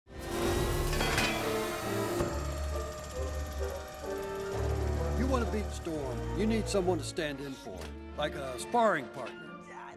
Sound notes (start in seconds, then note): 0.2 electric saw cutting; 0.9 metal clanking; 1.9 hydraulic platform lowering